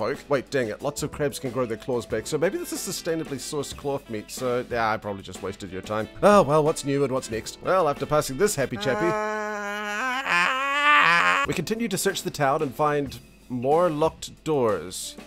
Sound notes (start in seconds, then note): 8.7 aaaaaaaAAAAAH